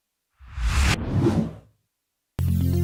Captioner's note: electronic wooshing; bright music